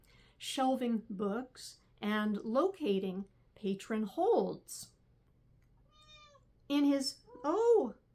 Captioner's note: cat meowing